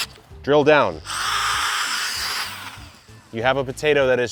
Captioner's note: drill buzzing